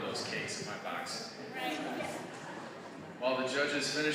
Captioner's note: audience chuckling